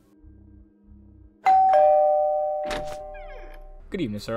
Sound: doorbell

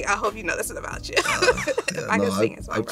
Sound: laughing

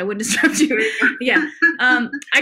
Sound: laughs

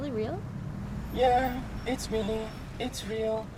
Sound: in robotic voice

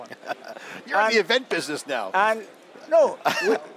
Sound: laughs

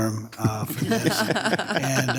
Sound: people laughing

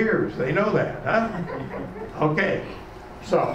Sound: laughing

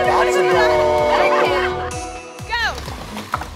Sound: laughing

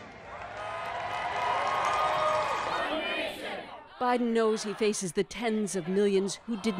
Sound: cheers and Applause

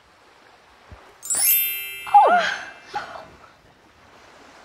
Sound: magic sound

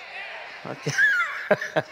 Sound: laughs

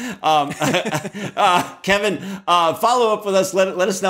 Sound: chuckles

